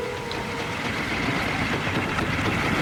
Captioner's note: approaching of car